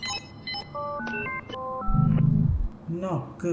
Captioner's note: VM error sounds